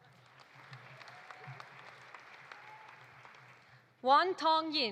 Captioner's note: audience applauding